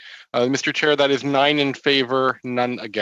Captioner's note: speaking French